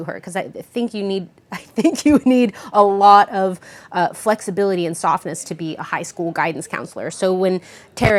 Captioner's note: laughs